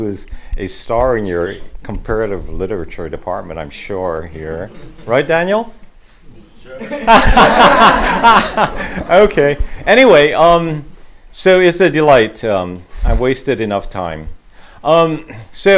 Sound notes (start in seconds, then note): 6.8 laughter